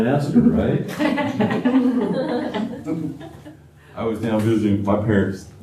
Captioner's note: laughter